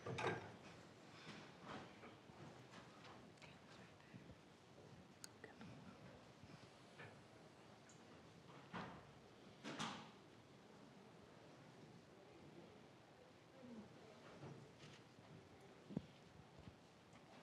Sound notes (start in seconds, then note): none